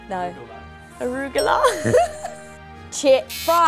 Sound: laughing

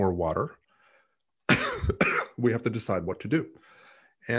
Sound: coughs

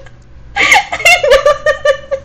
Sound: laughs

